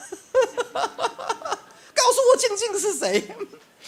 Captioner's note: laugh